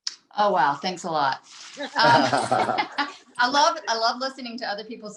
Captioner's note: group laughs